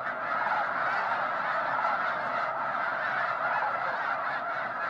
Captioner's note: birds squawking